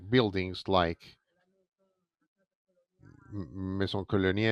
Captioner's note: speaks in French